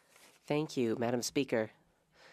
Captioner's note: speaking French